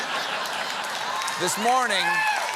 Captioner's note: cheers and applause